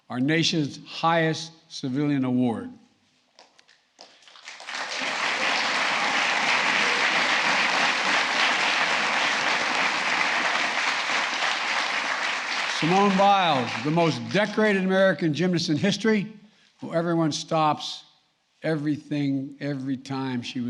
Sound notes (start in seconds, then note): 3.9 applause